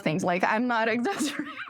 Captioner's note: laughter